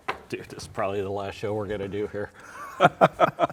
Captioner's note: both laughing